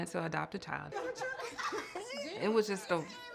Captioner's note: laughter